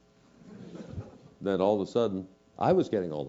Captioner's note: laugh